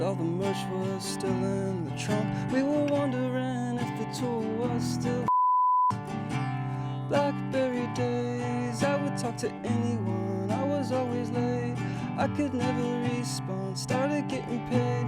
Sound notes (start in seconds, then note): 5.2 beeping